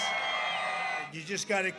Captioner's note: cheering